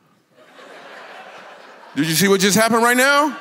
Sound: congregation laughs

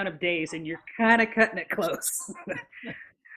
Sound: laughs

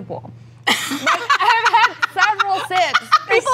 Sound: laughing

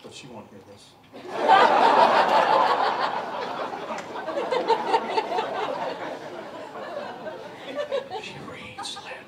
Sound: laughter

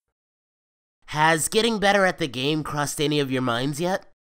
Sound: none

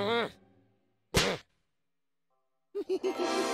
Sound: giggling

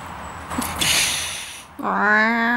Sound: hisses; angry "meow"

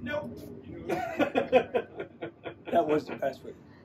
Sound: laughing

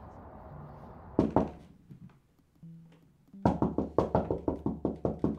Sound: knocking on door

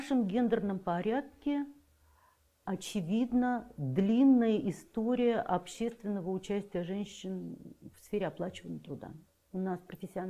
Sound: Russian

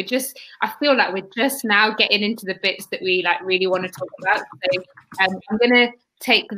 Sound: erm

